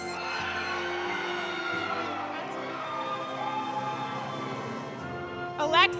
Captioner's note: audience cheering; audience applauding